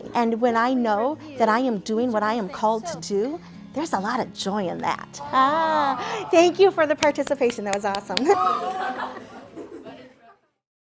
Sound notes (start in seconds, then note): 7.0 claps; 8.7 students chatting indistinctly